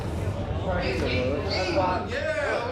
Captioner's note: chatter